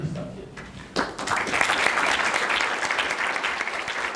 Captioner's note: audience applause